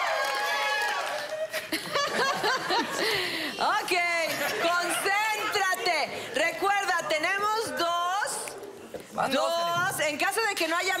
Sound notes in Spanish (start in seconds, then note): 1.5 Risas